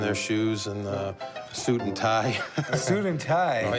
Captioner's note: laughs